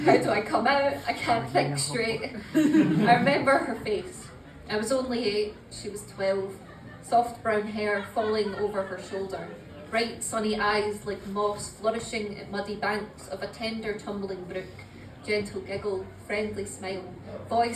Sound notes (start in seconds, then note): 2.3 laughter